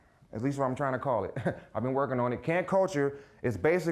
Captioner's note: chuckling